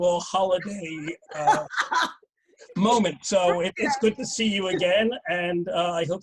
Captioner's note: laughs